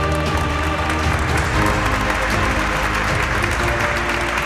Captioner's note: audience applauding